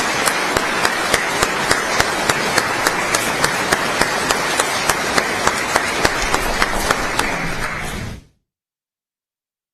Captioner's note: applause